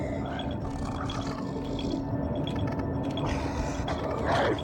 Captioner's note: growling